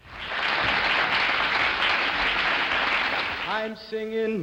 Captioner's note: applause